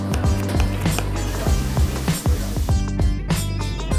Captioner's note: oil sizzling; pot clinking; knife clacking